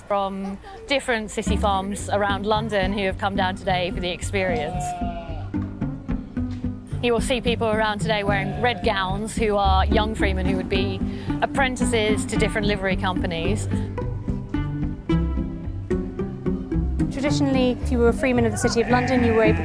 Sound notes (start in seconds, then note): 4.5 sheep bleating; 14.3 pizzicato string music